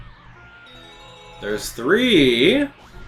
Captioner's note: coin chimes